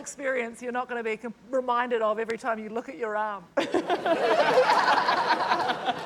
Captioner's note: laughs